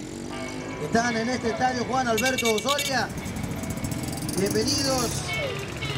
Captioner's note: speaking Spanish